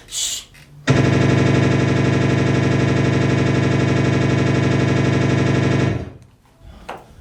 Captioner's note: machine gun fire